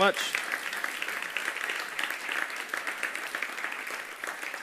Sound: audience applauding

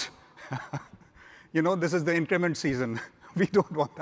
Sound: laughs

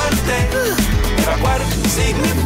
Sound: Pedro sighs

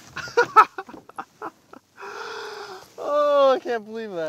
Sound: laughs

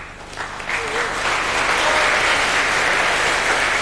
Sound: applause

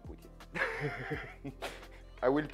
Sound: laughs

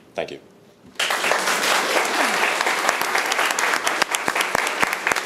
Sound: room applauds

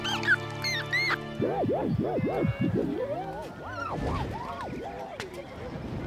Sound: records scratching

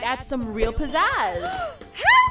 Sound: offended Gasp

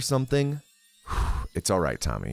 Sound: exhales

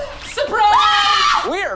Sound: screams

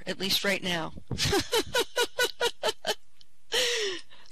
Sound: laughing

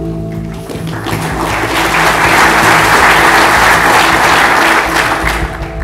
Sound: applause

